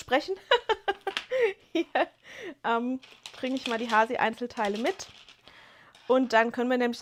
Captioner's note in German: gelächter